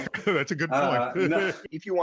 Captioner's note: chuckling